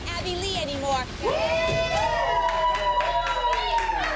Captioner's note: cheering